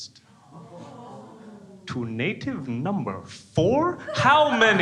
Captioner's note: crowd groans